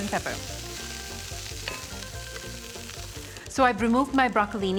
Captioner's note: sizzling